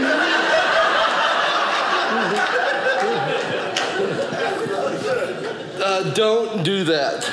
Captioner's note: audience laughing